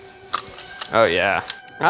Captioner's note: stapler clicks